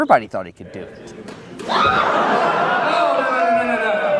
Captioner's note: crowd laughter